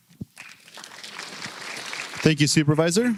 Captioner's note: applause